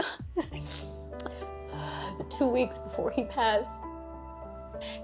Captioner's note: sniffles